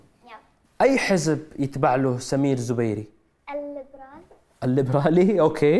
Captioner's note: none